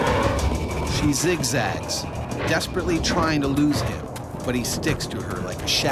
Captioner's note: voiceover